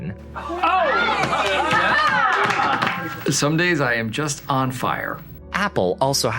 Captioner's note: applause